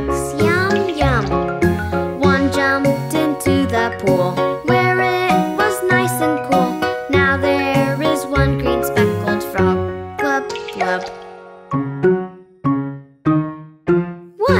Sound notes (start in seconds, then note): 10.3 water splashing; 12.4 quirky piano music